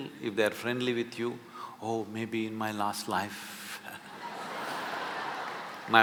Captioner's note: laughter